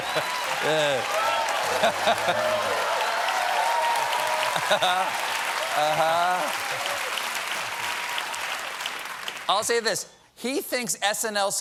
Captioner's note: laughter; cheers and applause; piano riff